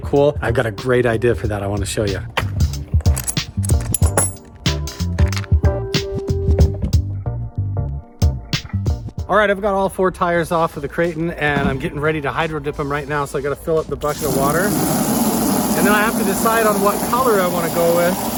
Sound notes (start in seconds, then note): 2.7 upbeat music; 3.0 ratchet clicking